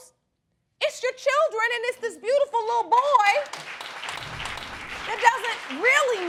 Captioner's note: applause